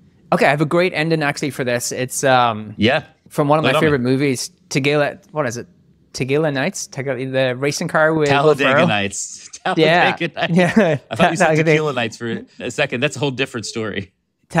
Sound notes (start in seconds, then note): 9.5 laughing